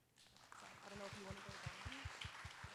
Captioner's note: audience and performers applaud